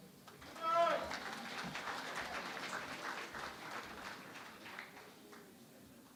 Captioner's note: applause